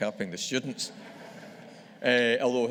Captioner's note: audience laughing